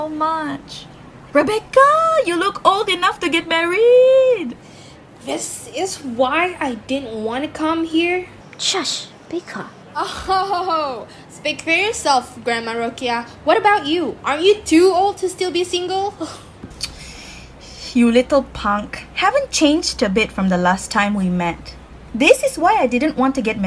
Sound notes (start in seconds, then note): 8.0 whispering to Eli